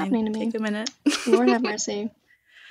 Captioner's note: laughter